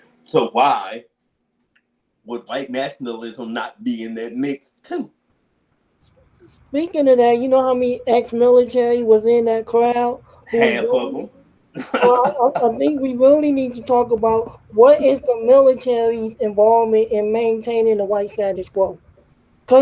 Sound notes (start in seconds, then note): 11.7 laughs